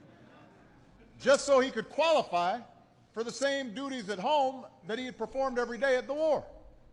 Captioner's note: laughter